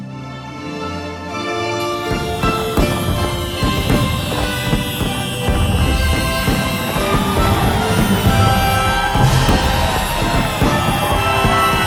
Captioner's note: 🎼 Patriotic Music 🎵; cheers